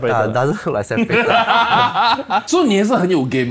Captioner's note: laughs